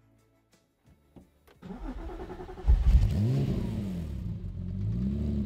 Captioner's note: car revs